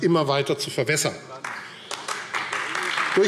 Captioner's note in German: Beifall AfD